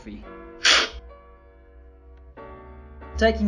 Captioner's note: slurping